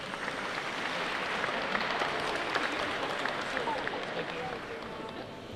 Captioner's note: clapping